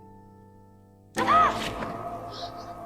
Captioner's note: Sienna gasps in surprise